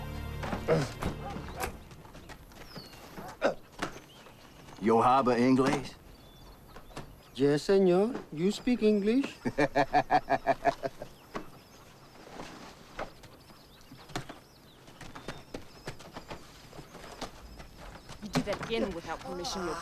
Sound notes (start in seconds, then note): 4.8 Latrell speaking in foreign language; 9.3 Latrell laughs